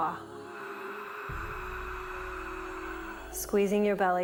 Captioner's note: breathes